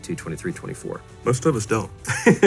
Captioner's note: laughs